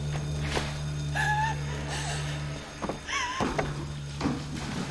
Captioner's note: Nelly gasping